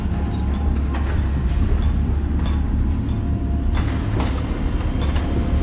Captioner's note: construction vehicles rumbling